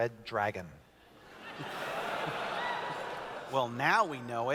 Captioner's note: laughter